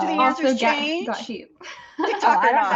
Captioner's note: laughs